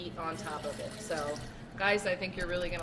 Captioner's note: liquor sloshing